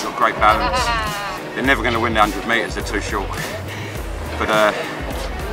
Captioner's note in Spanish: Se ríe